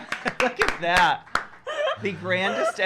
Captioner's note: laughs and gasps